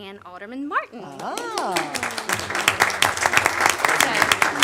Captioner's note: applause